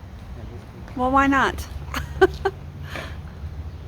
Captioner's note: laughs